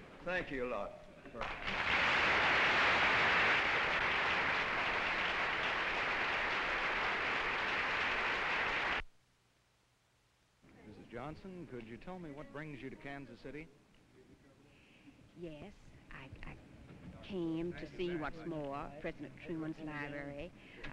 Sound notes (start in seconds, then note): 1.3 applause